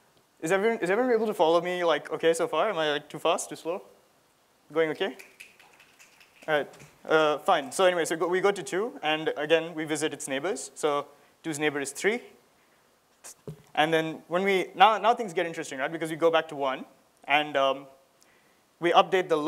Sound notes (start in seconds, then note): 5.2 applause